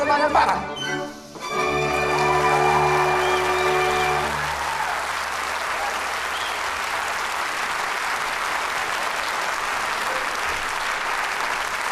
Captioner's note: applause, cheering